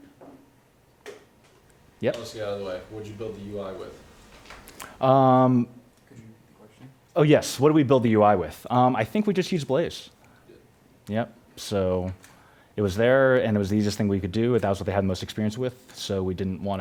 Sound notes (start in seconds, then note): 2.6 voiceover